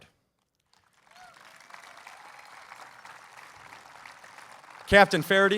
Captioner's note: applause